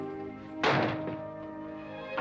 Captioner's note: door slams shut; sad romantic music